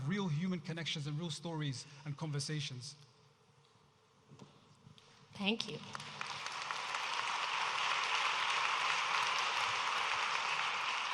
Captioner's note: audience applauding